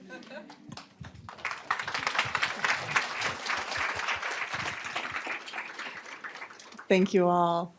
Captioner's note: applause